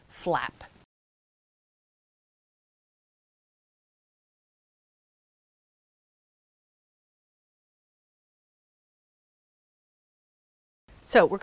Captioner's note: no Sound Present